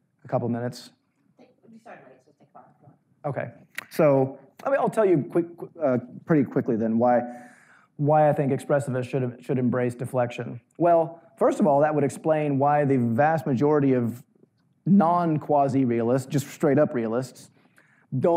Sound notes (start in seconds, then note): 3.0 murmuring